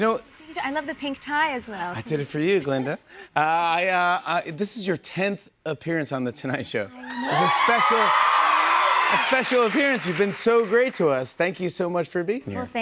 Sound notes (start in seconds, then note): 7.0 audience cheers